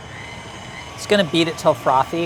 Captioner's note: beater runs